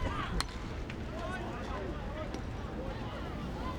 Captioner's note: bat cracks